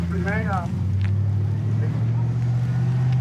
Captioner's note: truck driving